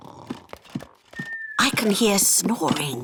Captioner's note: snoring